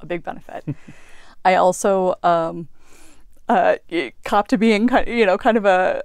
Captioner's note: laugh